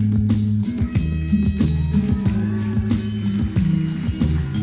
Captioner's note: audience cheers